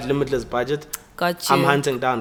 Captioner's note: everybody laughs